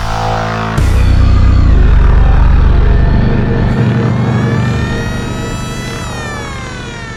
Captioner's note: wailing siren